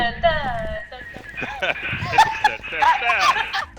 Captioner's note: humming the beat of conga line music; laughter